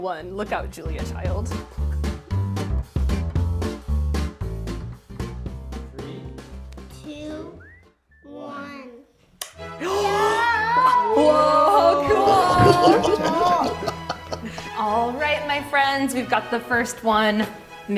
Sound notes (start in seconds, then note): 14.6 laughter